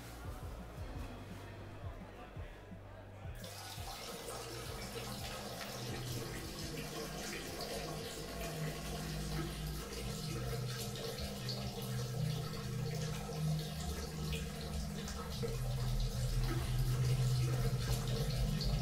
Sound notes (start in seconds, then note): 5.2 urinating sounds